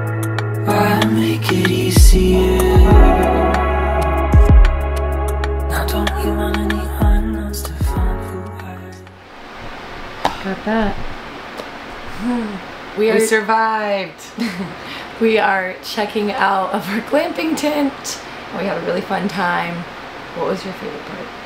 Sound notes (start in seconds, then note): 12.1 yawns